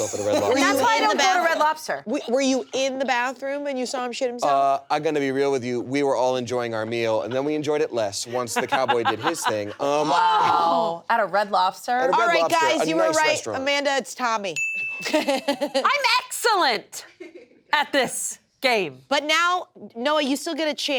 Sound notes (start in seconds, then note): 8.2 laughter; 14.6 bell dings